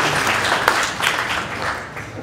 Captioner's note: applause